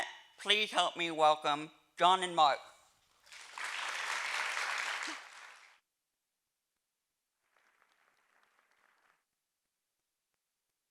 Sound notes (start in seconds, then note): 3.2 audience applauding